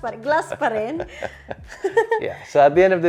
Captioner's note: laughs